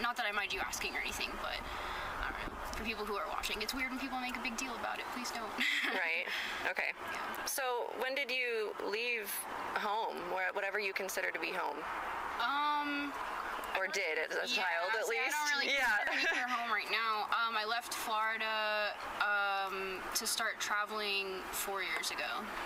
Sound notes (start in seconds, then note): 5.6 laughs; 15.7 laughs